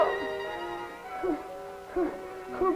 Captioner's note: heavy breathing